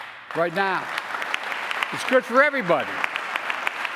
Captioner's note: applause